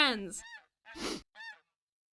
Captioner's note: sniffle